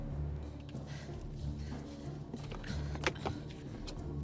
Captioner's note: breathing heavily